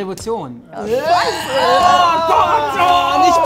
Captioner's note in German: Angeekelte Laute